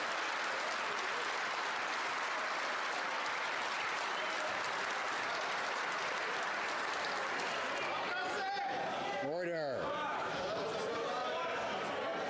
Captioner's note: some Applause